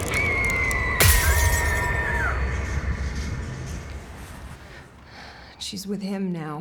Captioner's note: Flora screaming; glass shatters